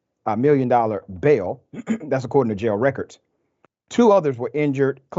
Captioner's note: cough